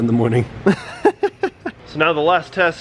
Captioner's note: laughs